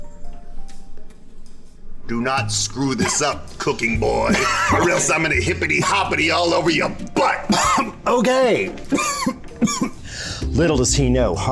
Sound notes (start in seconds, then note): 7.3 Alton Coughing